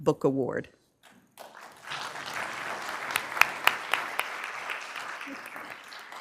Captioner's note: applause